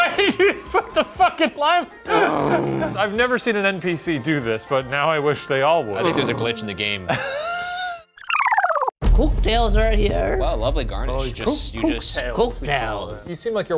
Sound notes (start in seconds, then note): 2.0 laughs; 7.0 laughs